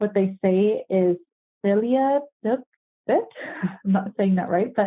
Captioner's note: speaking foreign language